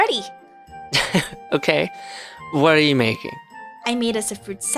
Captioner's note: laughs